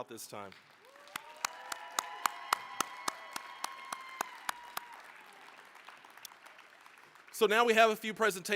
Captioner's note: applause, cheering